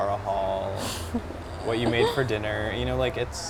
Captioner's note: laughing